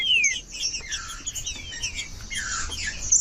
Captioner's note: trinca ferro cantando